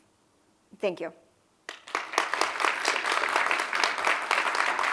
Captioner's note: applause